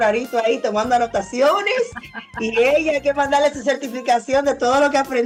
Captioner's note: laughs